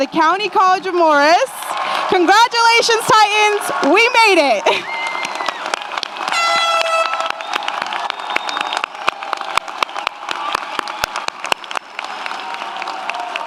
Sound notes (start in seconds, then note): 4.7 audience applauds; 4.7 audience cheers; 6.3 horn blares; 8.2 audience applauds; 8.2 audience cheers